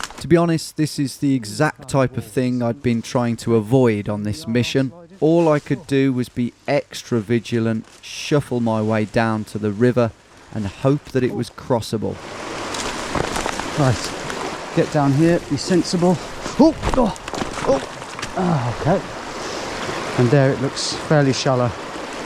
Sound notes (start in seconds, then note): 16.5 groaning